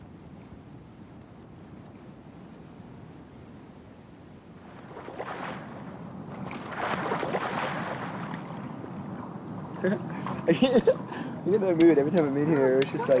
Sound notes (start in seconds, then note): 4.5 water splashing; 12.5 laughs